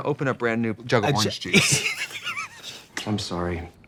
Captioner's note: Katya laughs